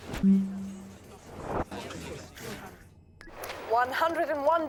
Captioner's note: electronic beeping; people chattering